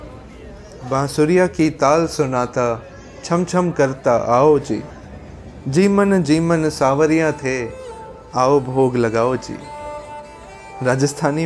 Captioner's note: speaking in local dialect